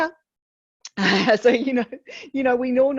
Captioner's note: chuckles